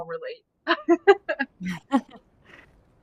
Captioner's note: laughs